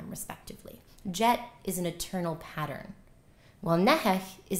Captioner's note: non-english